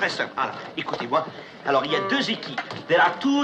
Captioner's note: speaking French